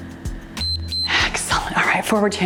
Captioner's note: timer beeps